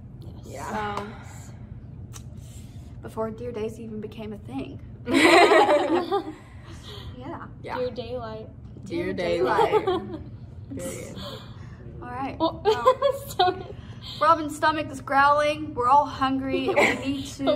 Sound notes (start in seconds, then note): 12.9 laughs